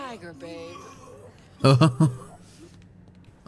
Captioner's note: laughs